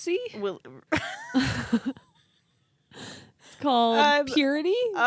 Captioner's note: laughing